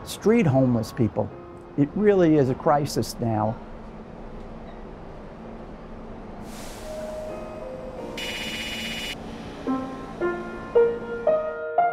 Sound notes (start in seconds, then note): 3.5 pensive music; 6.7 text clicking; 9.2 inspiring music